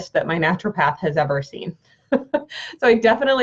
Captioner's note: chuckling